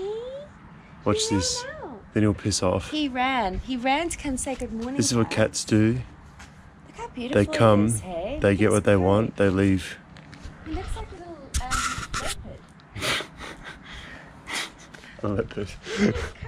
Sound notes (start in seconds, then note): 12.9 laughter